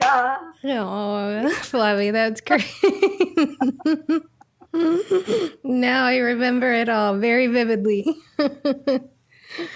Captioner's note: laughter